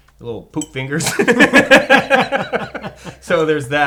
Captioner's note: laughs